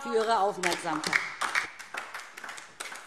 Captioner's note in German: Beifall DIE LINKE